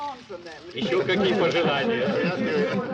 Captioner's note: laughter